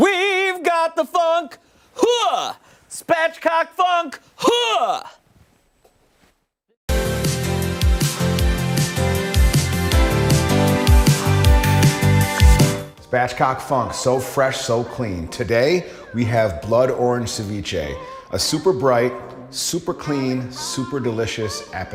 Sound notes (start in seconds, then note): 6.5 laughter